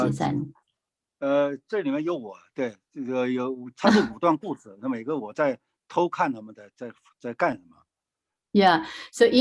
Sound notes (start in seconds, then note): 0.1 speaking in foreign language